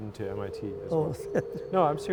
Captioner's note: laughter